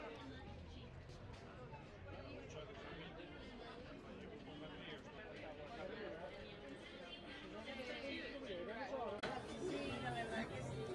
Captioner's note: people chattering